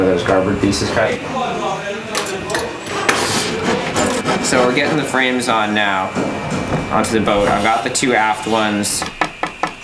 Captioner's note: sounds of Woodworking